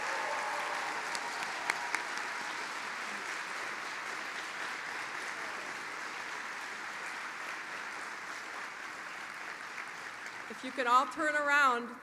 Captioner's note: applause